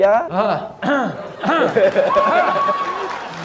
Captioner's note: coughing; clapping